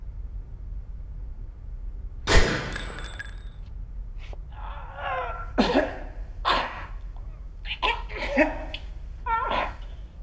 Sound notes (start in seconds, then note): 2.2 gunshot; 5.4 gasps; 7.5 coughing